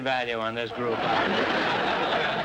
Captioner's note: audience laughter